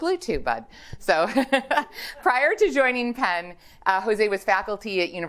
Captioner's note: laughs